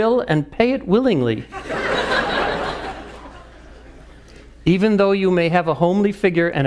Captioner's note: laugh